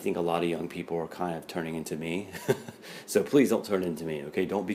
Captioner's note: laughs